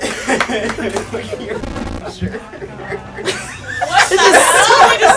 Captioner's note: buzz